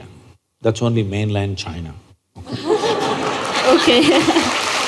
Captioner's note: laughter/Applause